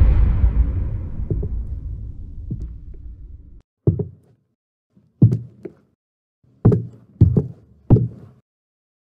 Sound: footsteps outside

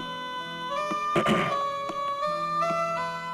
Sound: clears throat

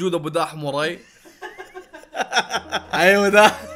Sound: laughter

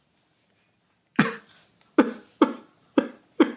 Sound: fake cries

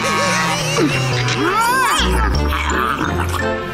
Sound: grumbling; laughing

